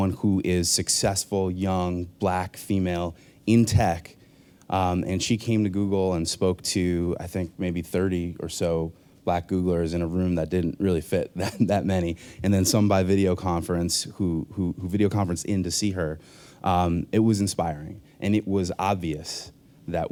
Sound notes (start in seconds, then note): 11.4 chuckles